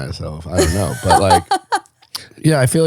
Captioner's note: laughing